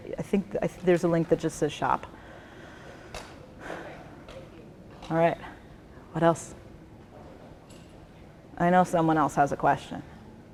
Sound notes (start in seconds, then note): 3.6 exhales heavily